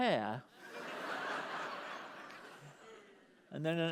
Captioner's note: laughter